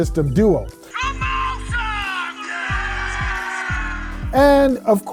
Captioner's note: crowd chanting